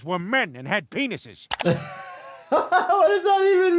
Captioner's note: laughing